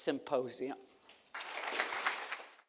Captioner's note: applause